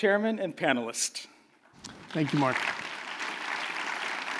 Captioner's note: applause